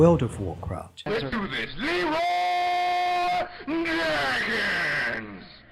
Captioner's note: in-game voice chat